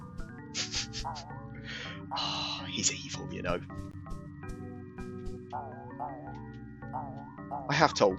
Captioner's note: chuckles